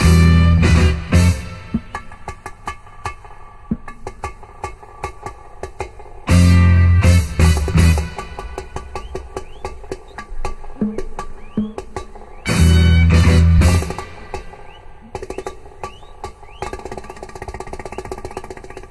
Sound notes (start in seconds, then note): 3.8 drum tapping; 6.3 horn continues